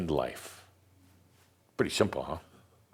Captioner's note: music stops